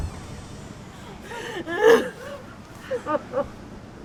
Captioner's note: crying